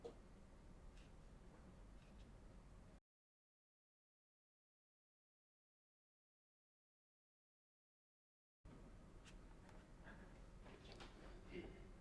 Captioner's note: silence